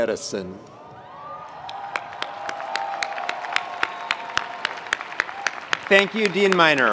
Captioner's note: attendees cheering; attendees applauding